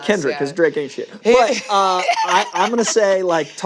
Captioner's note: laughs